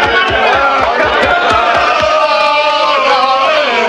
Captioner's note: all war chanting